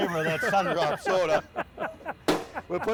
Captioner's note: laughing